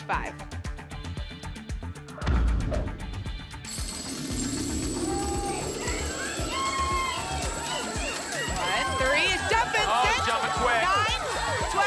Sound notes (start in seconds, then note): 2.2 thump; 3.7 coins jingling; 4.9 cheering